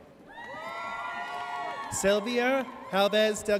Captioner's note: audience cheers